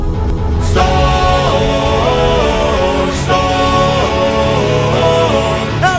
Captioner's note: storm